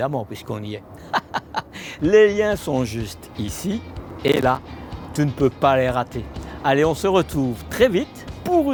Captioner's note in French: rires